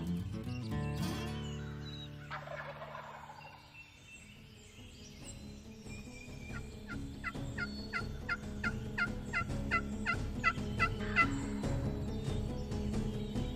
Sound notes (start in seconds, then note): 2.2 turkey gobbles; 6.8 turkey call yelps; 10.7 intense music